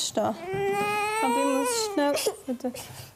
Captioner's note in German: Weinend